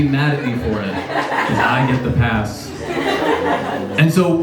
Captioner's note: laughs